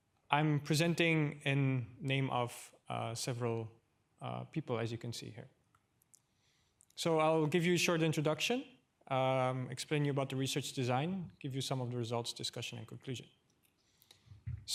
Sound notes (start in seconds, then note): none